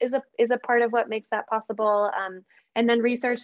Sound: none

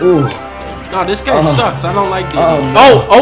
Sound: sky moaning

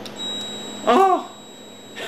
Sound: relay beeps

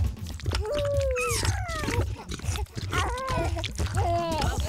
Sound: baby noises

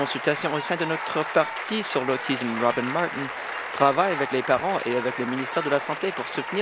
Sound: applause

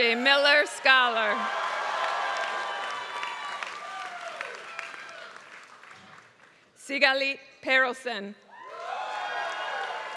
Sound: applause; applause

